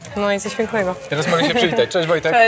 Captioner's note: laughs